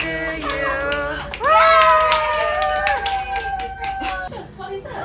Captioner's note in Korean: 박수